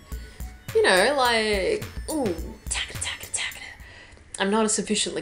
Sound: making a keyboard sound effect

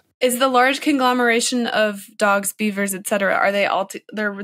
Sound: none

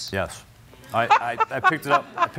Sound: laughter

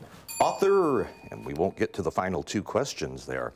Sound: ding

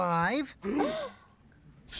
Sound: both gasp

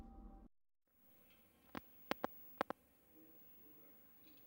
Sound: camera static

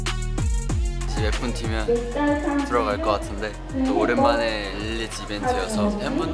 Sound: heart racing

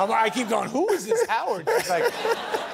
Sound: laughter

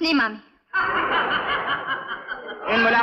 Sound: laughs

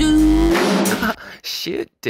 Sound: laughing

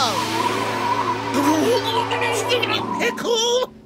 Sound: chattering

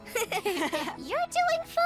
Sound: laughter

